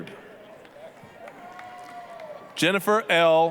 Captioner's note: applause, cheering